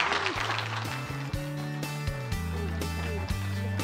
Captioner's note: applause